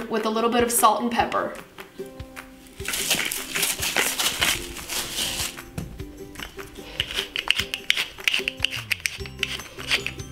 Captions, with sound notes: with a little bit of salt and pepper. (salt shaking) (pepper grinding)